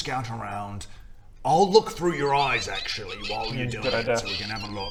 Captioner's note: chaotic evil rat squeaks